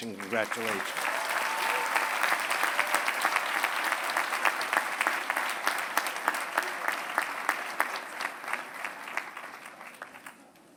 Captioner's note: applause